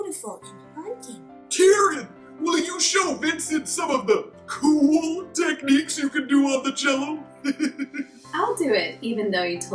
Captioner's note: laughs